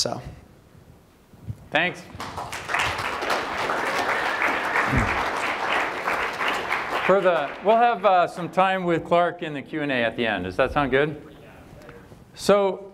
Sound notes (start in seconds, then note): 2.1 applause